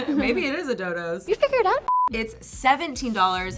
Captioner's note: beeping